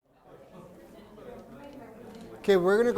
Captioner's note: people chattering